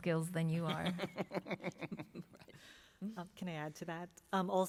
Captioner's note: laughter